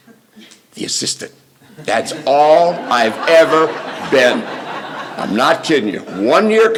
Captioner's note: laughter